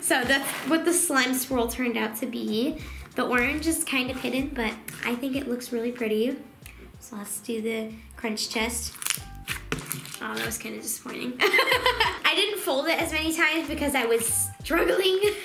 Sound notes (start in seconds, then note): 8.8 crackling; 11.4 laughing